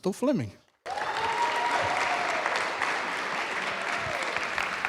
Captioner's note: applause